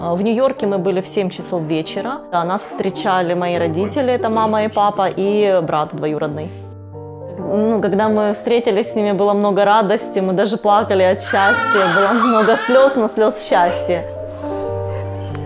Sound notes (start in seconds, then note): 0.2 speaking Ukrainian; 11.2 baby screaming